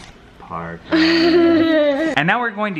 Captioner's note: laughing